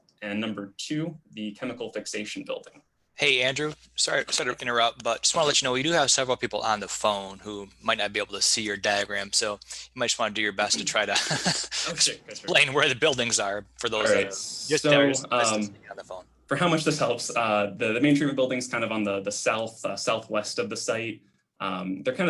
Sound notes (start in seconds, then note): 10.7 giggling